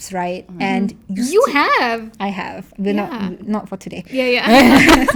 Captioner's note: laugh